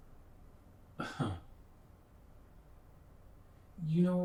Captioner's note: Jeffrey scoffs